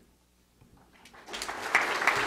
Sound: audience applause

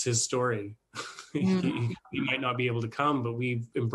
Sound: chuckles

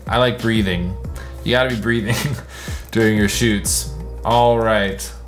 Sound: laughs

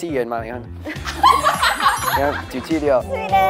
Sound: laughing

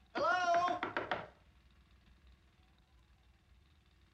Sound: knocking

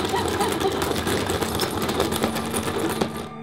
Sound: sobbing & Panicking

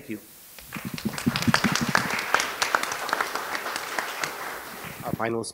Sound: applause

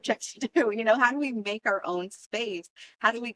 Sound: laughter

